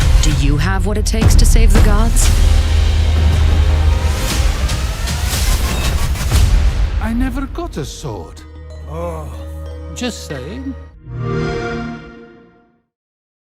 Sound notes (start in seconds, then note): 4.6 intense music; 11.1 xbox sound